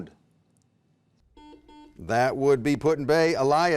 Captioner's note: beeping